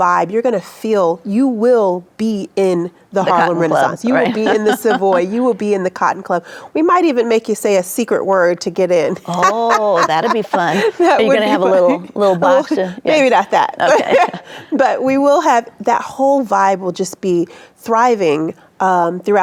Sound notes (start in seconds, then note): 3.9 chuckles; 9.1 laughing; 13.6 laughs